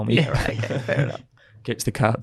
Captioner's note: group laughs